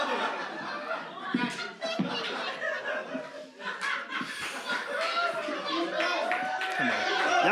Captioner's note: audience voices